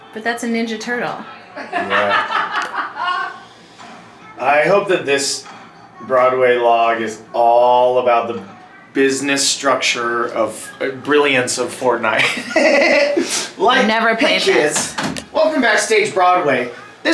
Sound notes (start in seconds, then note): 1.7 person laughs loudly; 12.1 giggles